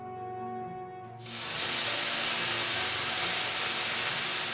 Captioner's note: hissing sound